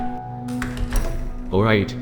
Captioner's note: footsteps; door Closing